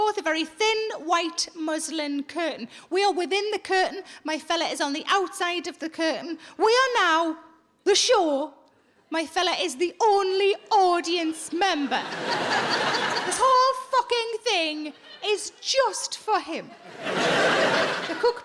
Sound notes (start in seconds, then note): 11.8 audience laughs